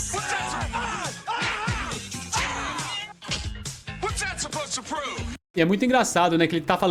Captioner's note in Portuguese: grito